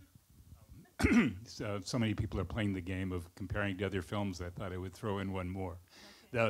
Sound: clears throat

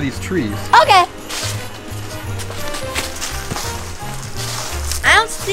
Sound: footsteps pattering

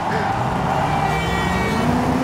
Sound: engine revving

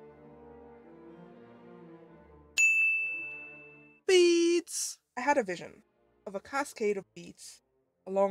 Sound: voiceover

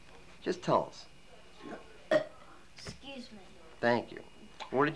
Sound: burps

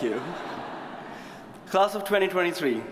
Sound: audience chuckles

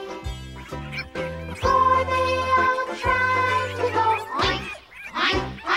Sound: squealing

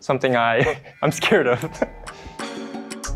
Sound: laughs; chill music continues

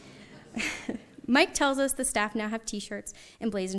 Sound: audience chuckles; laughs

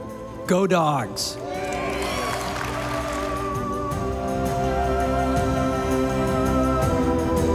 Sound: stately music; audience applauding

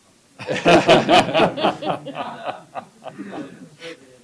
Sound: laughter

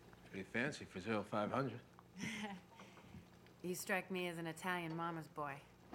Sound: laughs

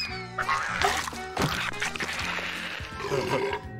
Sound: chewing

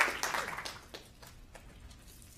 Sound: applause

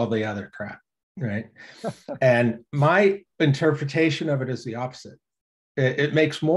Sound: laughs

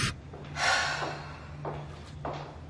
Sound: big sigh

